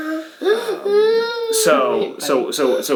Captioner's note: whimpering